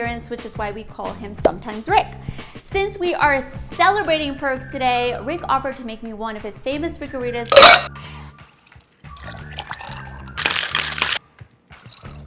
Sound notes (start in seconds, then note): 7.5 ice clinking; 8.5 liquid pouring; 10.3 drink shaking; 12.0 liquid pouring